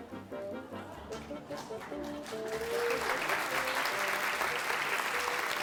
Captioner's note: applause